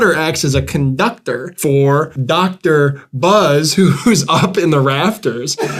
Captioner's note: laughing